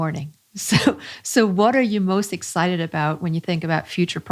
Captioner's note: chuckles